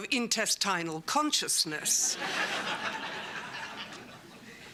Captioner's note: laughter